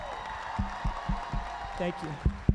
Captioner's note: audience applauding